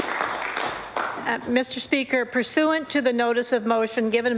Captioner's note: applause